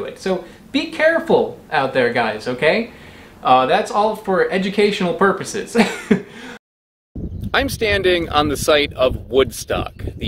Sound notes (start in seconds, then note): 5.8 laughs